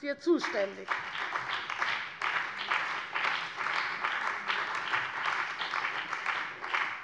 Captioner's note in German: Beifall bei der CDU und dem BÜNDNIS 90/DIE GRÜNEN